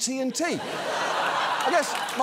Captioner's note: studio audience laughs